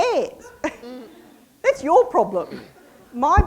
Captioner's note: audience laughs